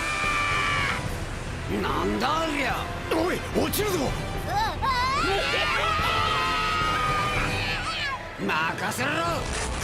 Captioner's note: screaming